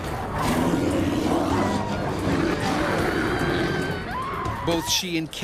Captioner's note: voiceover; bear growling; screaming